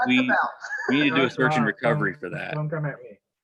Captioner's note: laughing